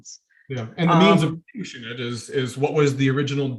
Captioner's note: audio distorting